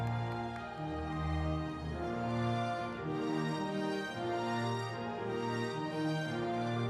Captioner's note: audience cheering